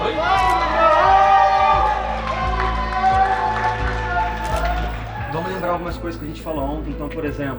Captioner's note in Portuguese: aplausos